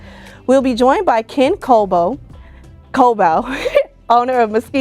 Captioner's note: laughs